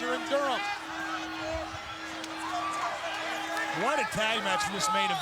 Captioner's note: all chattering